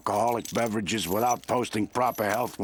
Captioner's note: none